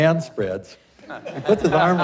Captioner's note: laughter